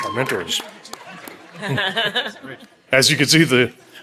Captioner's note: audience applauding